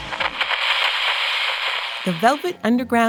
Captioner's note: radio crackles; mellow music plays